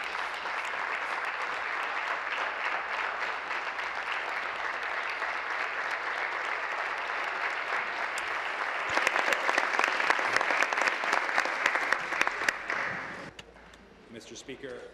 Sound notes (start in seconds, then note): 2.7 applause